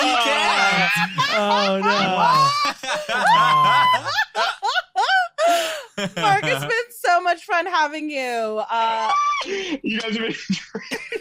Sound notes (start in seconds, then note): 0.0 laughing; 5.3 group laughing; 9.5 group laughing